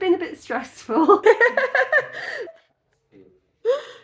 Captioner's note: laughing